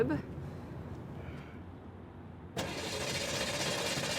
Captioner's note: engine sputtering